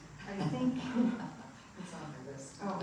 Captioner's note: audience laughing